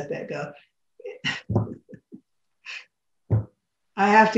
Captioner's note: laughs